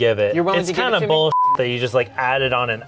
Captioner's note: beep